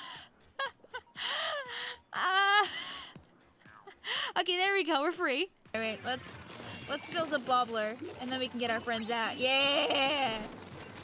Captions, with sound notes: (laughing) Okay, there we go, we're free. All right. Let's, let's build the bubbler and then we can get our friends out. Yay.